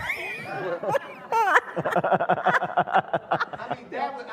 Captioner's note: audience laughing